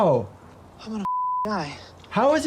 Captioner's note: beep